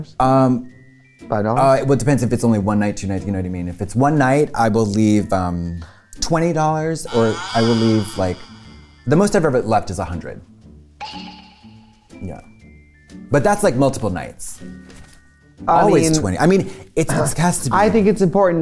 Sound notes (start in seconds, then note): 8.6 creaking sound; 11.0 clank